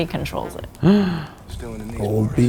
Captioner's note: gasps